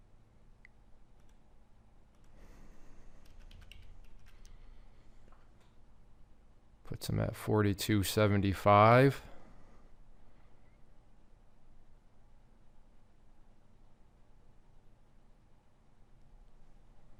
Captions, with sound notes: (mouse clicking) (keyboard clacking) Put some at 42.75.